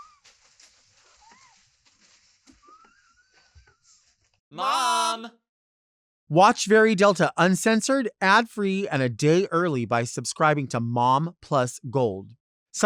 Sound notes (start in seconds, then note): 4.8 crowd